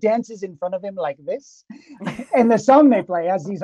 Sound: both chuckling

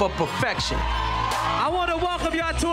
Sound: crowd cheering

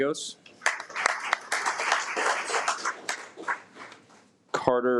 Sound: audience applauds

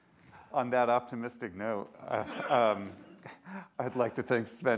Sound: audience laughs

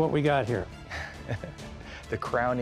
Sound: chuckles

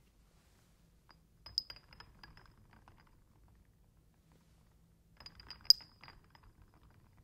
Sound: clinking glass sounds

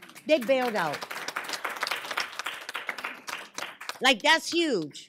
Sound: applause

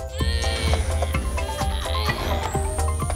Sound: groaning

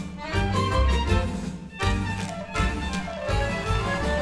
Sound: dancers clap; crowd cheers

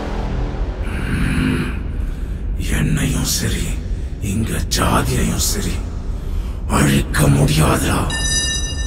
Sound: ghost voice

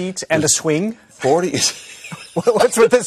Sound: laughing

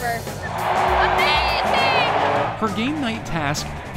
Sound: crowd cheers

